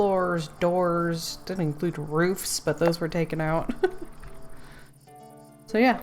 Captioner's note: laughs